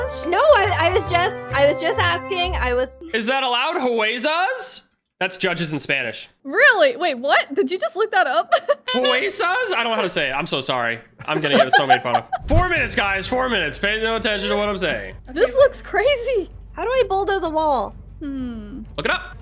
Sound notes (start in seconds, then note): 3.7 speaks in Spanish; 8.7 speaks in Spanish